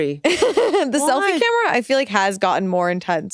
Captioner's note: laughs